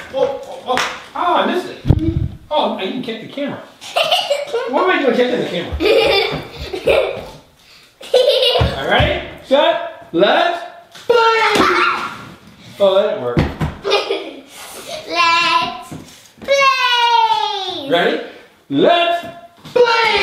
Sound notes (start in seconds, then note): 3.9 girl laughs; 6.0 girl laughs; 11.7 girl laughs